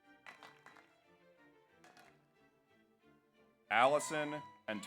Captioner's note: audience applauds